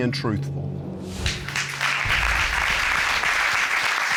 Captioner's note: applause